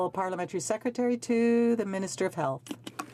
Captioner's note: speaking French